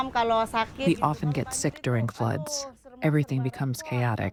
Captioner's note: through translator